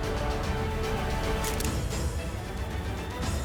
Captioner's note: clicking sound